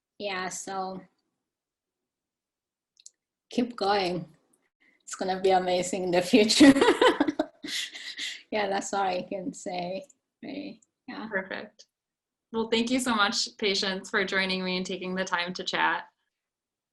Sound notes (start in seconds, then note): 6.6 giggling